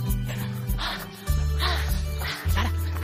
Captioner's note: panting